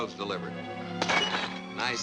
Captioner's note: glass breaking